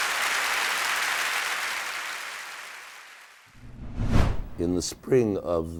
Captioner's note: audience applauding